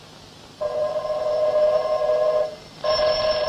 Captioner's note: telephone rings